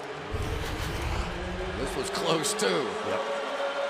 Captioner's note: pa announcement